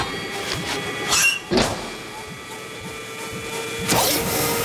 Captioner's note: door creaks